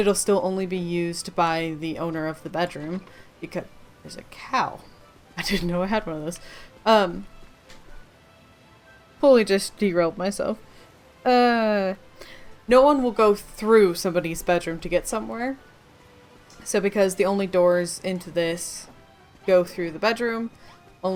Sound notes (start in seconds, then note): 6.5 laughing